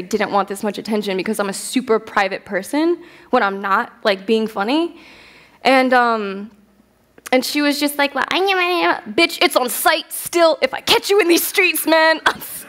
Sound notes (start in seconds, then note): 7.6 whiny voice